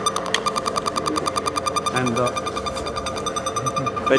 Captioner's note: machine beeps